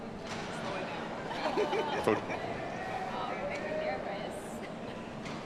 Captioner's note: audience laughing